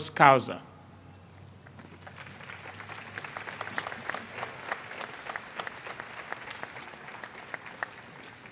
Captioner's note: applause